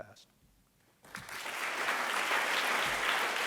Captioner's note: applause